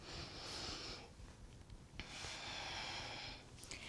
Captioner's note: exhaling